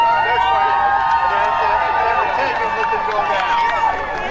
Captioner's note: crowd cheers